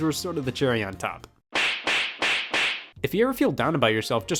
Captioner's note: 4 knee slaps